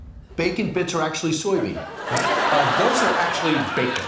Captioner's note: laughter